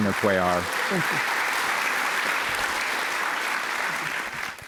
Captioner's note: applause